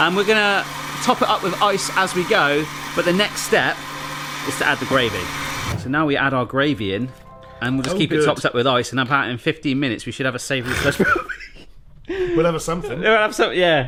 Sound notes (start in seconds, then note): 10.6 laughs